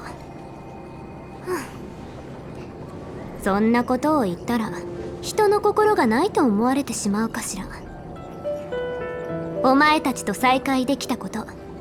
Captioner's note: sigh